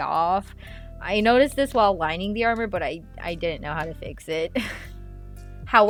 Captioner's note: laugh